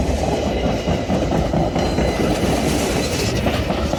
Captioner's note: clickety-clacking